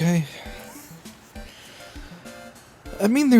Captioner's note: soft, gentle wheeze